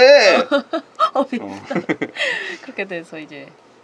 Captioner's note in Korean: 웃음